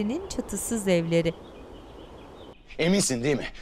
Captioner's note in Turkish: Kuş cıvıltısı sesleri